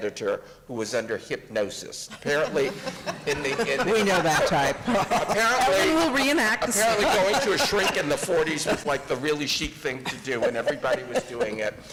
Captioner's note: laughter and inaudible remarks